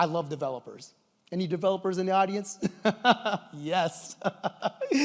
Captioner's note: laughs